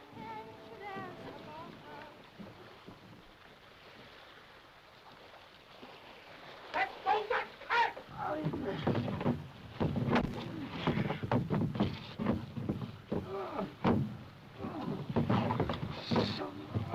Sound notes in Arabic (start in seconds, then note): 10.3 تأوه